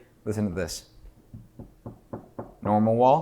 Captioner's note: knocking